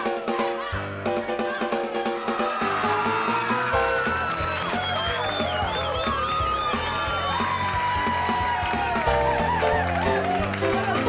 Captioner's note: crowd cheering